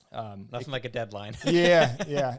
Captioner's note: laughs